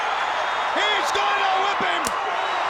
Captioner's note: crowd cheering